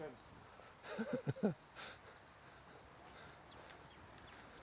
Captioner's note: chuckles